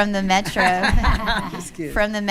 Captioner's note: laughing